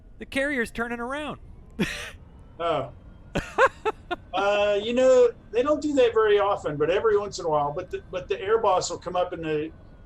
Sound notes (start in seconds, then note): 3.3 laughter